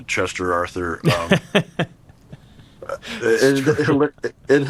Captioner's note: laughter